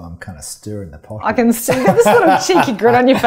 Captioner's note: laughs